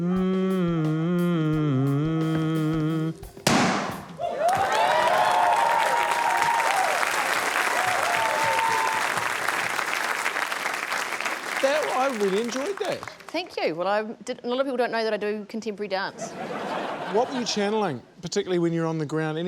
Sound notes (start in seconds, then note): 3.4 pop!; 5.3 cheering, applause